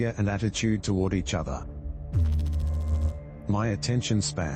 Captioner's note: electrical noise